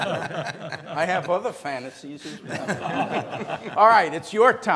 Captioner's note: laughs